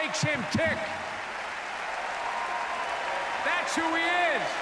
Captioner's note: applause